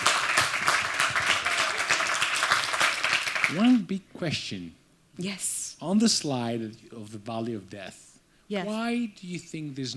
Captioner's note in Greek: Χειροκρότημα